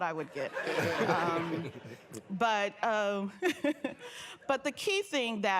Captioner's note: laughter